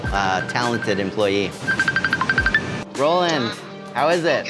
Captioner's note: phone ringing